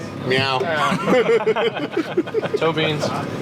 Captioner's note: everyone laughs